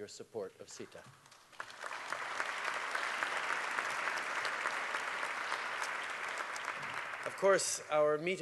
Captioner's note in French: Applaudissements